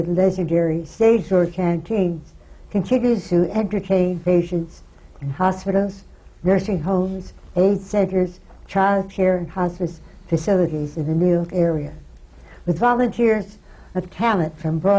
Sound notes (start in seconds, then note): none